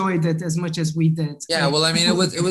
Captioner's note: both chatting